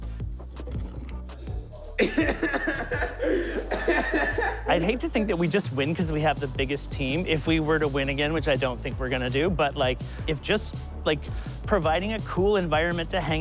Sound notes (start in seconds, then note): 1.9 giggles loudly